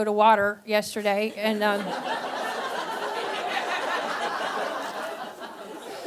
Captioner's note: audience laughing